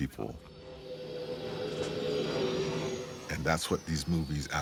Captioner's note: engines humming